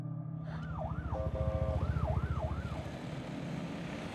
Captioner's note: sirens wailing